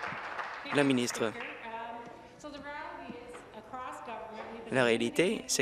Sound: applause

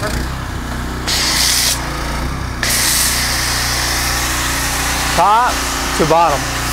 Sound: pressure washer engine whirring

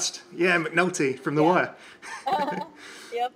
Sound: chuckles

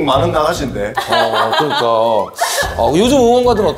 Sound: hahaha

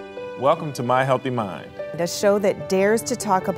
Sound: voiceover

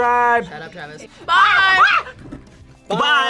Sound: screams

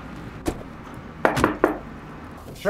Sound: knocking

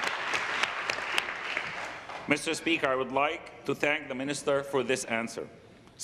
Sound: applause

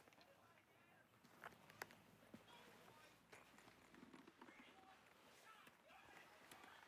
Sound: Alison's father shouting in the background

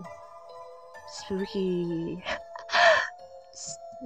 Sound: laugh

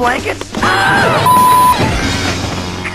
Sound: beep

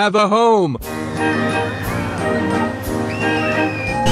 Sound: kids screaming

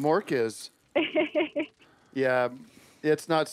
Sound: chuckling

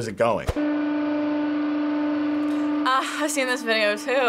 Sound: hydraulic press whirring

